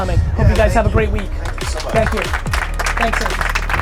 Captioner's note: audience applause